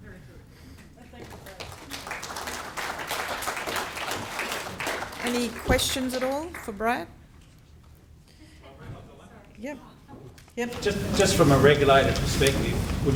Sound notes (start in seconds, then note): 1.1 applauding; 8.8 audience mumbling